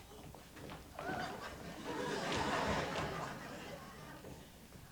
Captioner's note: laughter